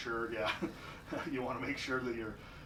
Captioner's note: laughs